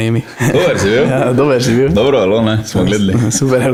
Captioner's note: in Styrian dialect